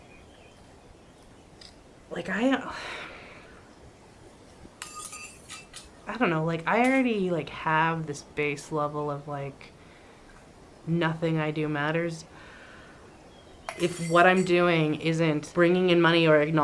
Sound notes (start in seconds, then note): 2.6 sighs